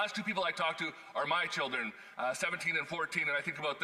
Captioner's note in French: voix de l'interprète